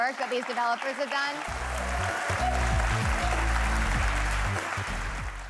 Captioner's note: audience applauding